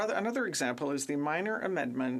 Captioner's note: speaking French